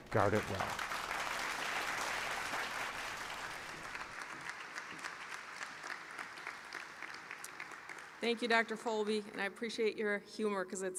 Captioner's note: applause